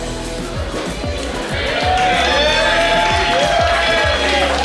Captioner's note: clapping & Cheering